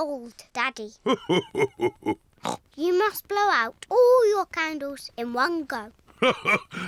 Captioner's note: laughs; oinks; laughs